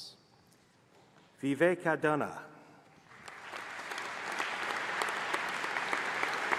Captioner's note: applause